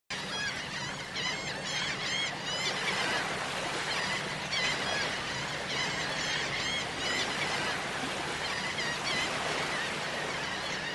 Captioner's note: seagulls Cawing